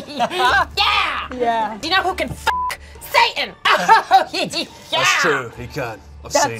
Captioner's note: beep; laughing